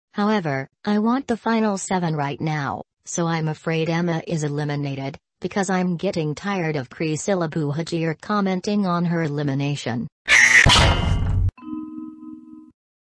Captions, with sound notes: However, I want the Final 7 right now. So I'm afraid Emma is eliminated, Because I'm getting tired of Chrysilla Buhagier commenting on her elimination. (Emma screams) (clang!)